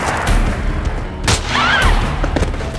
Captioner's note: gun fires; Ellie screams; intense music